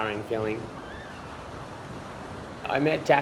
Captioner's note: gentle rumbling of waves